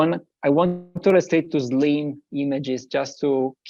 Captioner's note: audio cutting out